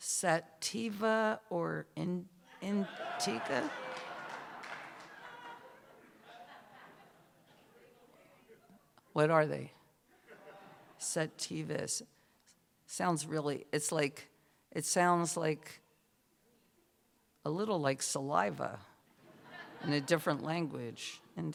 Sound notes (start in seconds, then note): 4.1 laughter, cheers; 10.1 laughter; 19.2 laughter